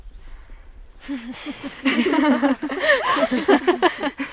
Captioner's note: girls laugh